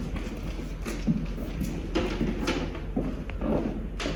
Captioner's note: footsteps